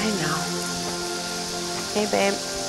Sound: water spraying

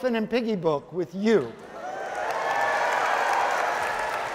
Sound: audience cheering

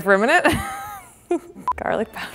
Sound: laughing

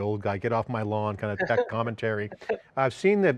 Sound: laughs

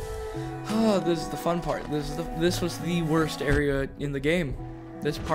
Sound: sigh

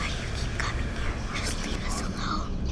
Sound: deep Whisper; child's Whisper

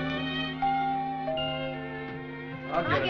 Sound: doorbell sounds

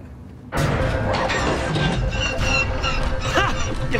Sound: malfunction sounds

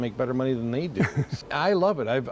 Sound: laughter

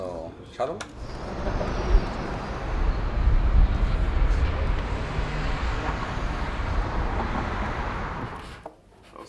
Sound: traffic

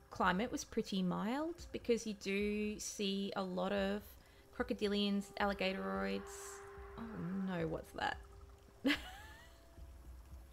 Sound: roaring sound

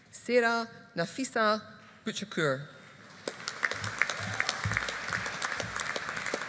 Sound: audience applauding

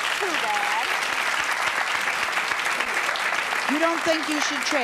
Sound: applauding

